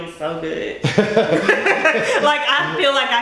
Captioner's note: laughing